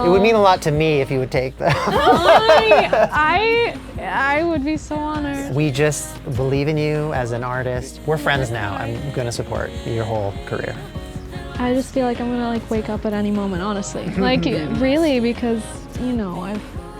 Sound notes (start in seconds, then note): 1.6 exasperation and laughing